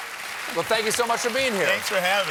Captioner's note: applause